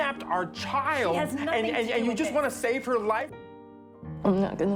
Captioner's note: voiceover; yelling; voiceover